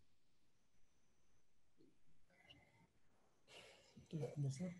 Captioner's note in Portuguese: pausa